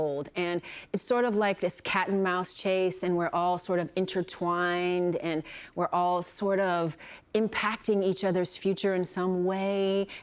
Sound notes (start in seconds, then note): none